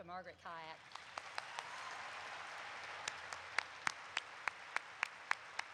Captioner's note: audience applauds